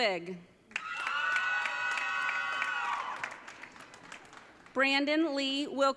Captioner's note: audience cheering